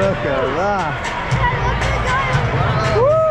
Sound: fans cheering

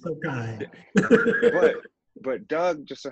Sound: laughing

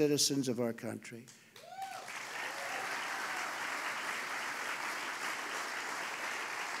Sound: applause

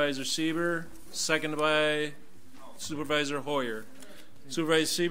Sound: overlapping chattering

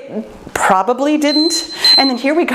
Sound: timer beeping

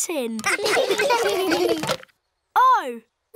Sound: laughter

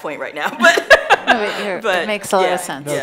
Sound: laughing

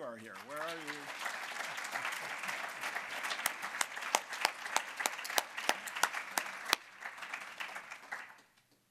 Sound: applause

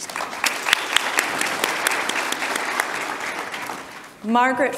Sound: audience applause

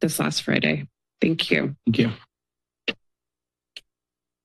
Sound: mic thuds

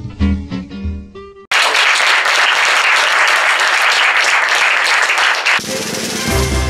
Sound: applause

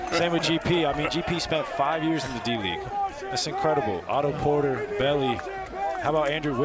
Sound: laughter

